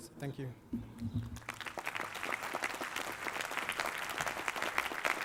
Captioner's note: applause